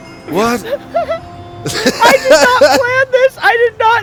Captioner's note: laughs